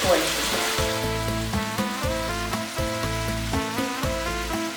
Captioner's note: sizzle